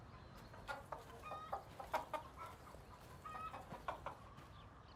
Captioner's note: chickens clucking